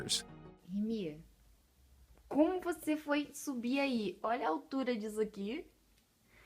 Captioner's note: speaking in foreign language